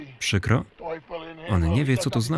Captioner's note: speaking in foreign language